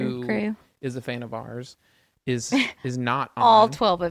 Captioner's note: laughs